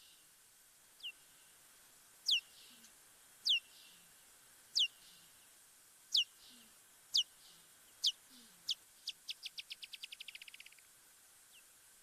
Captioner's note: bat chirping sounds